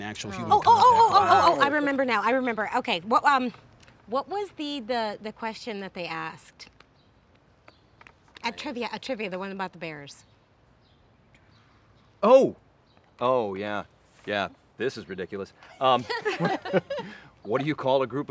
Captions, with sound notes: - Oh, oh, oh, oh, oh, oh, oh, I remember now, I remember. Okay, what was the question that they asked? At trivia, at trivia, the one about the bears. - Oh, oh, yeah, yeah. This is ridiculous. (laugh)